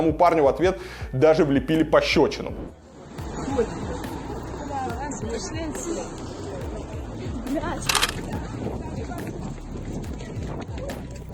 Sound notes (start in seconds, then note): 4.9 voices from the crowd